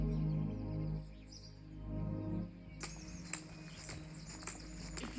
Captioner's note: birds chirping